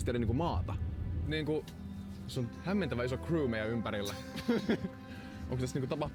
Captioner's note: nervous laugh